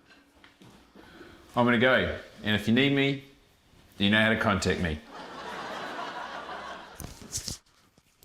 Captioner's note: laughter